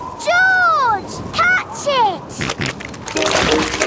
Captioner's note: snorting